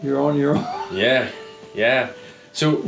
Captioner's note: chuckling